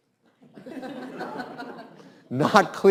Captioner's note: students laugh